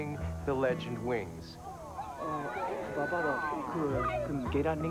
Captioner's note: speaking Cantonese